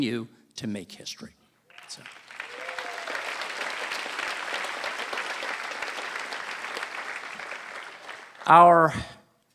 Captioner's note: applause